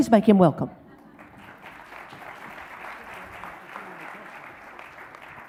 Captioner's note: audience applauds